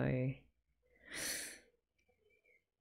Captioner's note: sharp breath